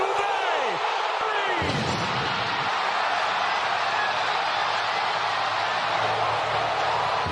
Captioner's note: crowd cheering